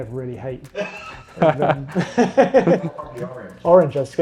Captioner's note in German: Leute lachen